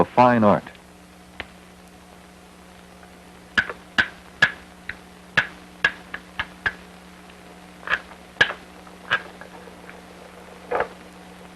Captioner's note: sound of hammering rock